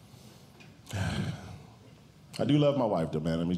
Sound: sighs

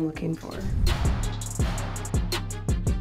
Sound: transition whooshing; high-energy music

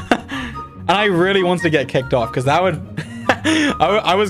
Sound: laughs

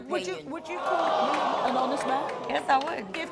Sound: audience gasps

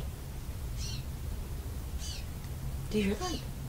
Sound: birds chirping

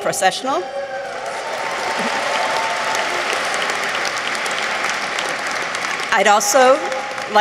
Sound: audience cheers; audience applauds

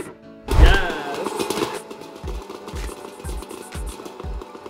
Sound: popcorn popping

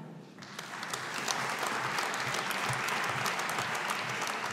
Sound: audience applauding

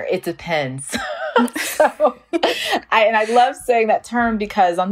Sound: laughs

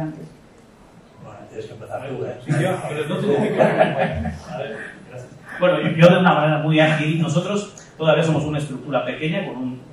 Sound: laughs

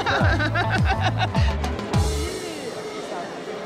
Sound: both laughing

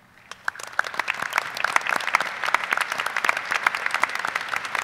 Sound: audience applauding

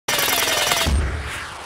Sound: electronic screech

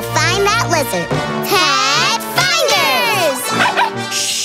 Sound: barking

